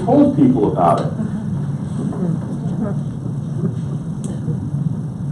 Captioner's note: laughs